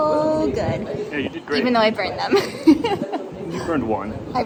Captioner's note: laughter